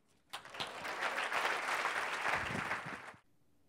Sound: applause

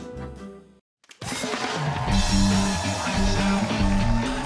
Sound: cheers and applause

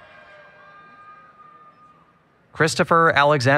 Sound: applause, Cheering

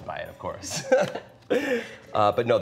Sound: both laugh

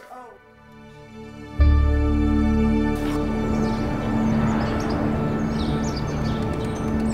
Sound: peaceful music; birds chirping

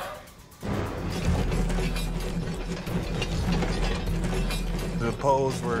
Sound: metallic clanking

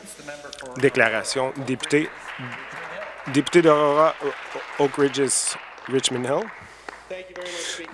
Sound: applause

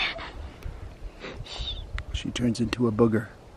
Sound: laughing

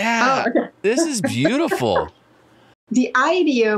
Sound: laughs

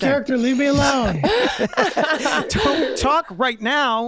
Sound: Meg laughing

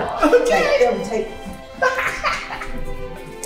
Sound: laughing

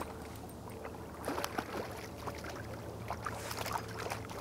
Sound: fish splashing

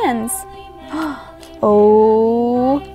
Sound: gasps

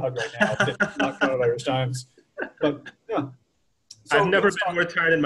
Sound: laughter

